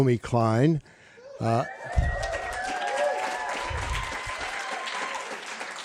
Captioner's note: applause, cheering